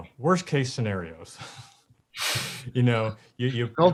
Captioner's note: both chuckle